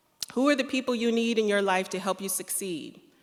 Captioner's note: none